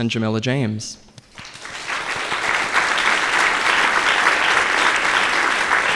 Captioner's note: audience applauding